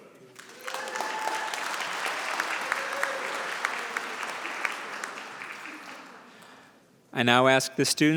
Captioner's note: applause